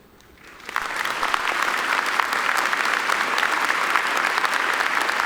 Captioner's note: audience applauding